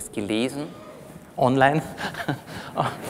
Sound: laughs; laughter from the audience

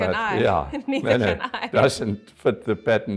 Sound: laughs

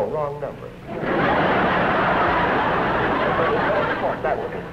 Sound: laughter

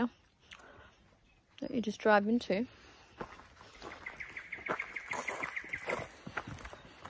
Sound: noshes; feet crunch on gravel; bird song

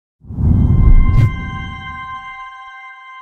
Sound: whooshing

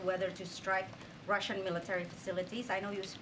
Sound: Russian

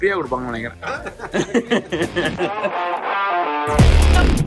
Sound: laughs

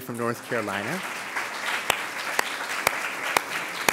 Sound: applause

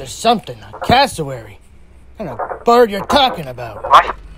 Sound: bird sounds

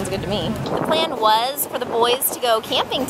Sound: thunderclap

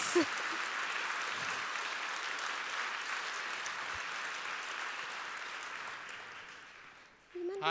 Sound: applause

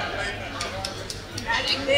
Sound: clapping

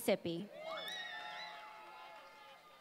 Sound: applause

